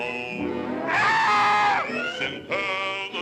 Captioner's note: birds squawks